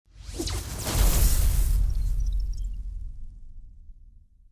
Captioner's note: futuristic sounds